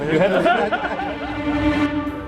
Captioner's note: laughter